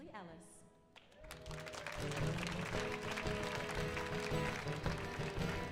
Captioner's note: audience applauds; bluesy guitar music